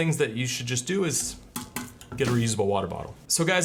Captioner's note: taps water bottle